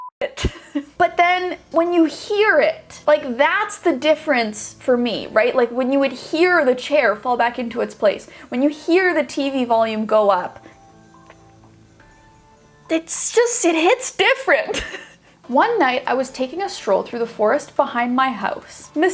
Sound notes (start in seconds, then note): 14.7 laughs